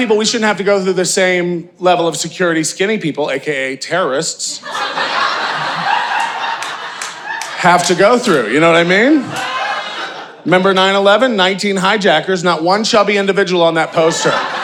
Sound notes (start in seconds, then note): 4.6 audience laughing